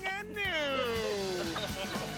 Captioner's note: laughter